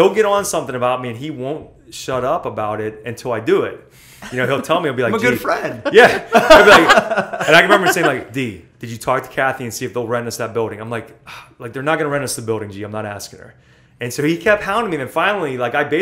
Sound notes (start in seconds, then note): 5.8 laughter; 11.2 sighs